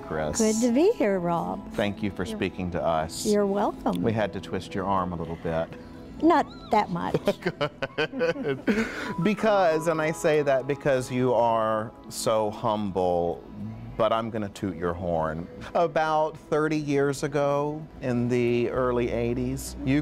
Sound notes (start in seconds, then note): 7.0 laughing